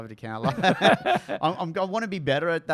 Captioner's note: laughs